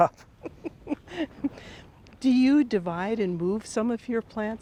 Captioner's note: chuckles